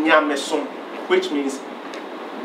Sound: speaking in foreign language

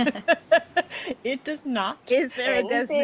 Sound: person laughing

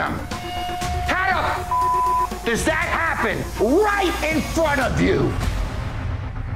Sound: beeps

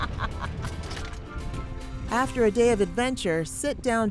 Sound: laughing

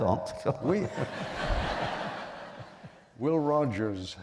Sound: laughter

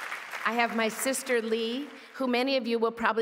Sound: cheers & applause

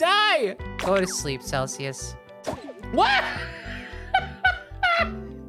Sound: laughing

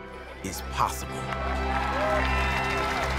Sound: cheering and applause

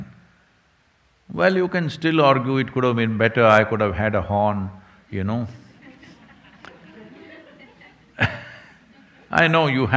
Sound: laughter

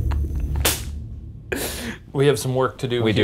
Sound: hand slaps

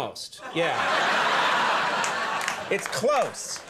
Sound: audience laughing

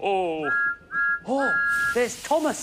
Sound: thomas whistles

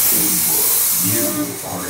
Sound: robotic Voice; air whooshing; womp womp sound

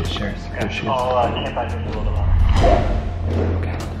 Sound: muffled speaking on walkie talkie

